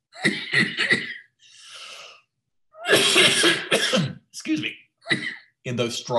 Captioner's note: coughs